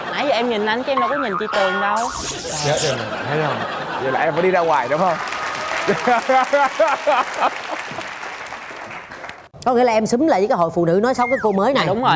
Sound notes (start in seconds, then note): 5.1 cheering